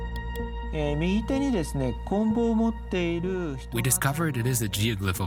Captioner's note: speaking Japanese